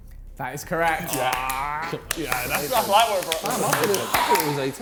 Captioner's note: men chattering; men clapping